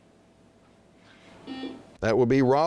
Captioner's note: buzzing